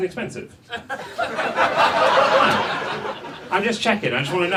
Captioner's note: audience laughs